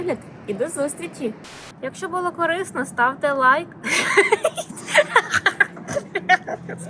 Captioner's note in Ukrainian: сміх